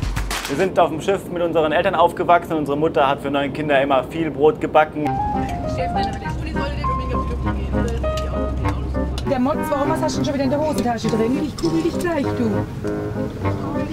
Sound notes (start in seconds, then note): 5.0 lively piano music; 7.1 soft conversation